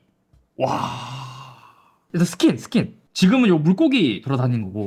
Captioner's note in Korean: 한숨